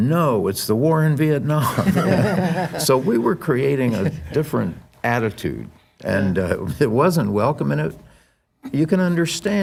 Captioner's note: laughtter